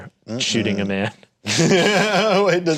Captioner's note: everyone laughs